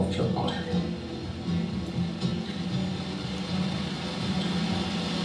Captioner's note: plane engine